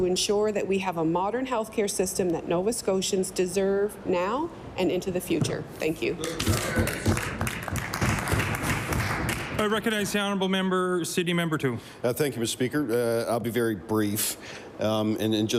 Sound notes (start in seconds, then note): 9.7 applause